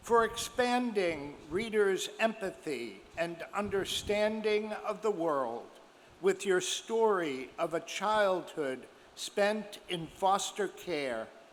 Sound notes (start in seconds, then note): none